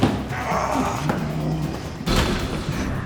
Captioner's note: growling; groaning; thumping